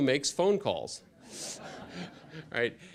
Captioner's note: laughter